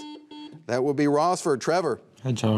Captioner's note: buzzer beeps